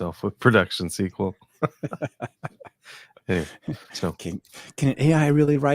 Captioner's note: both laughing